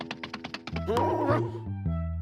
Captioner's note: grunts